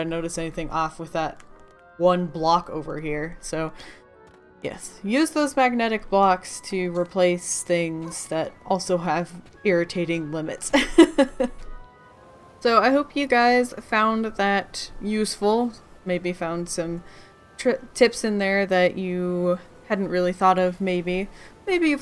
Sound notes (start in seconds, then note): 10.8 laughs